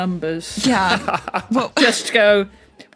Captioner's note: laughs